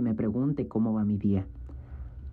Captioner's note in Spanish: habla en ingés